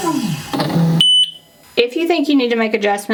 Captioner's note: beeping sound